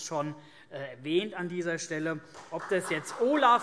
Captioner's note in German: Beifall